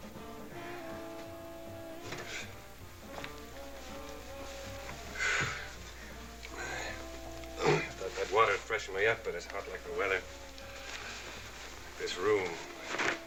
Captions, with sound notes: [instrumental music] [sighs] Thought that water would freshen me up but it's hot like a welder. This room..